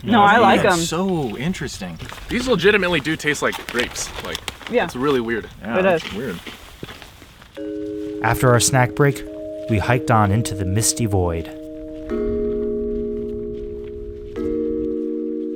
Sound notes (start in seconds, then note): 4.6 all agreeing; 12.1 low, somber music plays